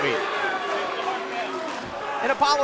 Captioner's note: cheers & boos